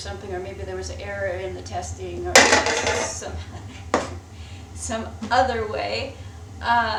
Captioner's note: clanking from knocking something over